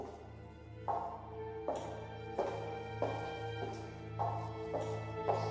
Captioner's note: footsteps receding